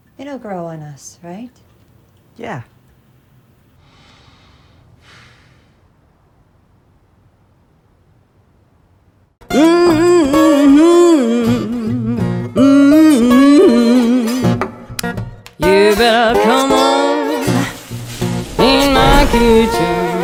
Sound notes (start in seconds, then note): 3.8 man breathing heavily; 9.5 blues music